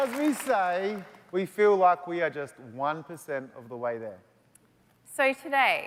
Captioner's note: applause